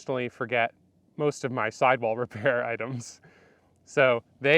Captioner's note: chuckles